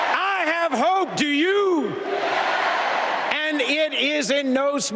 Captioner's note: applause